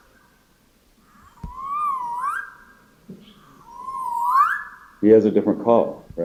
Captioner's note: bird call